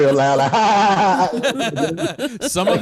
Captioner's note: laughs